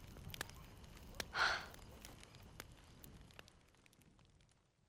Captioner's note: sighs